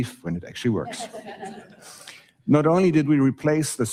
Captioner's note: audience laughing